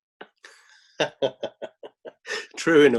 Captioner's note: laughing